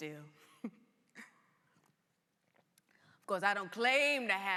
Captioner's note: laughs